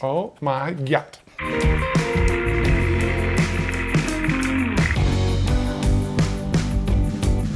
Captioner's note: device clicking; upbeat music